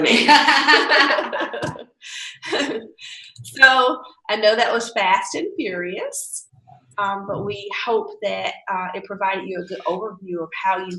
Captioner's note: laughing